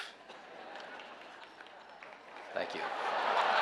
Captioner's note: audience laughing